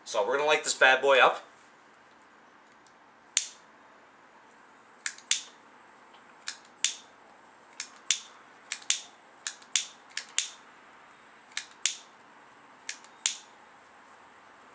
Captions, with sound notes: So we're gonna like this bad boy up. (lighter clicking) (lighter clicking)